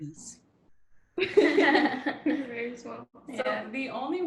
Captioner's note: laughter